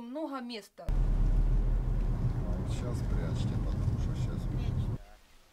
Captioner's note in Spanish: Sonido de carretera, conversación en ruso indistinta